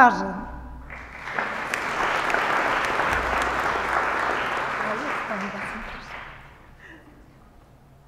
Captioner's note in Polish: oklaski